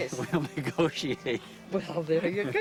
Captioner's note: chuckles